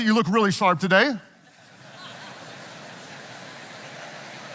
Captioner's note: audience chattering